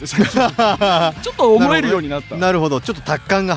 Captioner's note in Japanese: 笑い